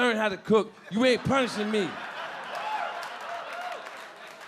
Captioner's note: audience laughing